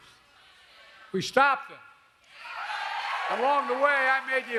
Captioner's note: applause